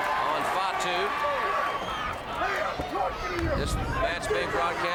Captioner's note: crowd cheering